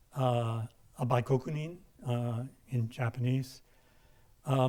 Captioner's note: speaking in a foreign language